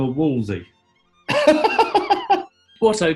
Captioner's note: laughing